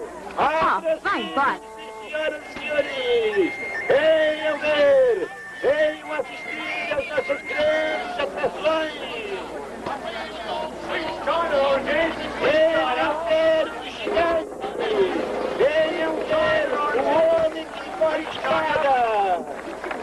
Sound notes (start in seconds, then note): 2.2 flute playing; 10.5 man shouting; 13.7 drumroll; 16.0 crowd shouting